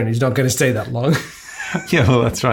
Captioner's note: laughs